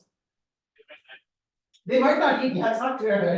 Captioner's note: student speaking faintly